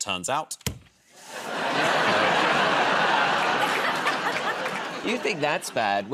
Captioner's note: laughter